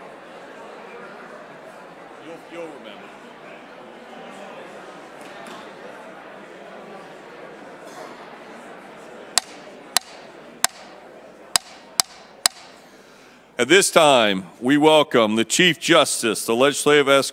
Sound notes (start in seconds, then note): 11.5 gavel